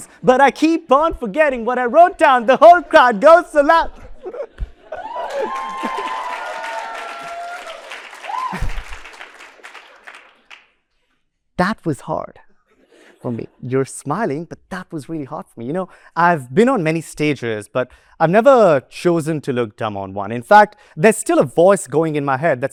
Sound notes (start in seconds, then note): 3.9 laughter